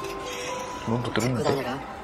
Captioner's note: pretend to speak Korean fluently